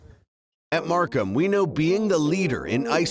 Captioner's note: voiceover